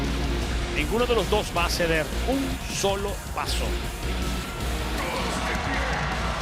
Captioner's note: energetic music; commentator speaking Spanish